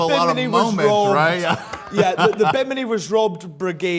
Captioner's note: laughs